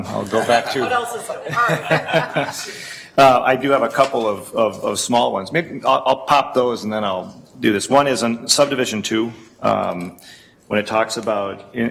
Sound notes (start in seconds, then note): 1.8 laughing